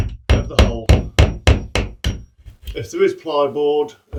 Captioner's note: hammer hammering